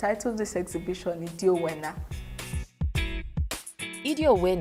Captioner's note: non-english speech